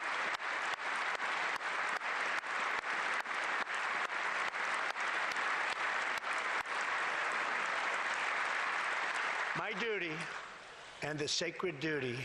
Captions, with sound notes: COLOR, RELIGION AND CREED. [APPLAUSE]